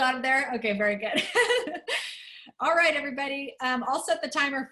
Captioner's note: laughter